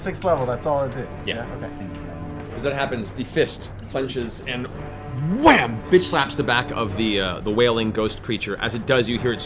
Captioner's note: wham